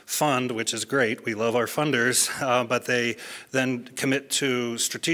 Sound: laughs

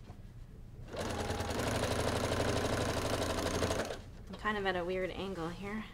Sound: machine whirs

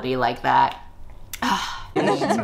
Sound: sighs

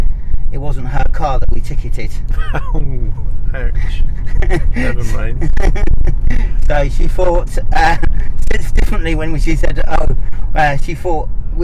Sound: laughs

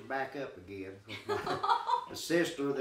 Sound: laughing

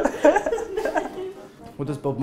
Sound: laughs

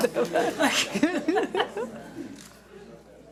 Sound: laughs

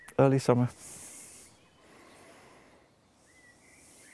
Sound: birds chirping

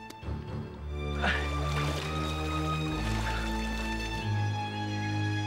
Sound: water splashing

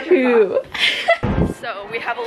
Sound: laughs

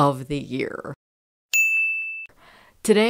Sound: ding sound

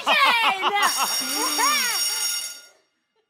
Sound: bell rings; silence

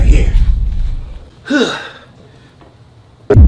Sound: grunts

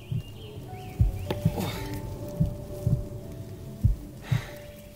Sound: irregular heartbeats

